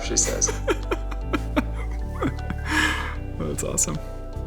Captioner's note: laughs loudly